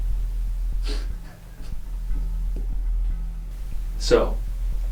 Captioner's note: Jim laughs softly